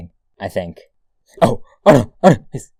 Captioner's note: sounds of true fear